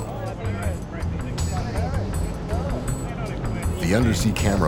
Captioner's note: crew murmuring